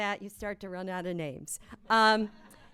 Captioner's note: laughter